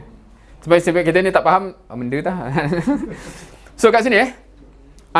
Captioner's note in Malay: ketawa